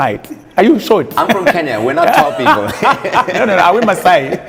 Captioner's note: laughs